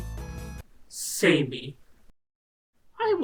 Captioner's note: warbled